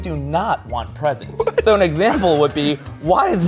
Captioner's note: laughs